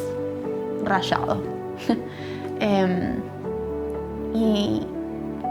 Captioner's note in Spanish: risas